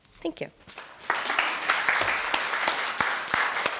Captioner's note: applause